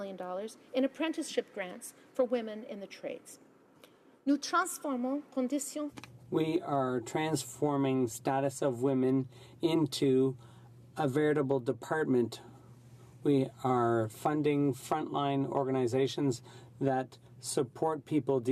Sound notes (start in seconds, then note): 9.7 speaking French